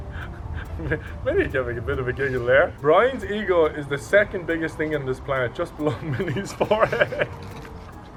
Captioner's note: laugh